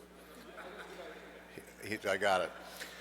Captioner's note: audience laughs